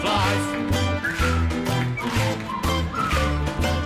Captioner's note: whistles